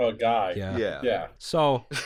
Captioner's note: laughter